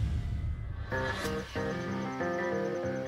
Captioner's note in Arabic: صراصير الليل تغرد